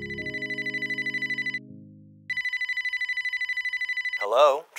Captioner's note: phone rings